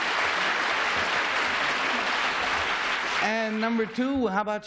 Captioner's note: applause